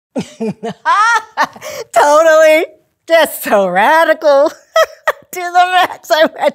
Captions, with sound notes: (laughs) Totally! That's so radical! To the max!